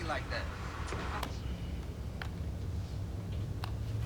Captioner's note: remote clicks